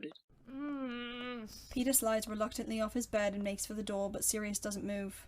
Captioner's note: Peter groans